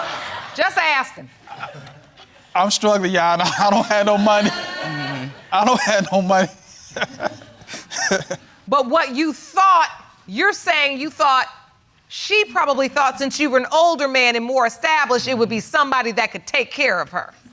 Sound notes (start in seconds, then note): 7.4 laughing